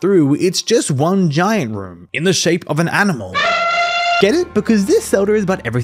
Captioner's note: elephant noise